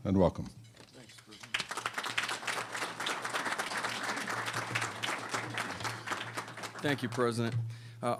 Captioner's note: applause